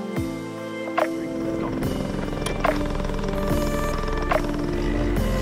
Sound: engine roaring

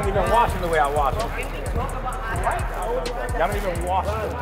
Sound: overlapping chattering

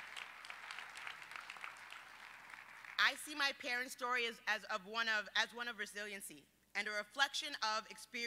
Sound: applause

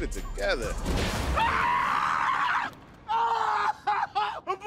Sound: screams

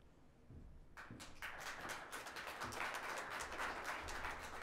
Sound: audience clapping

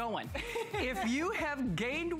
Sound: laughter

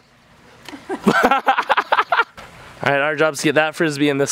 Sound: laughing

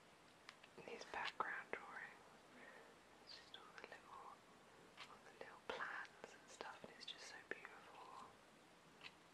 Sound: whispering

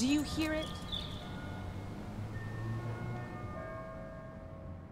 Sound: bells chiming

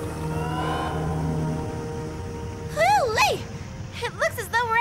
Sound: alarm stops

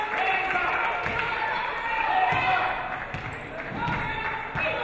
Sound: audience applauding

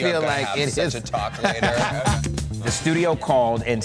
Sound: laughter

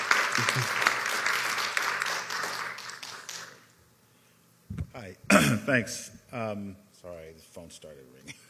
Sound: applause

